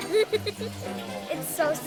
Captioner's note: laugh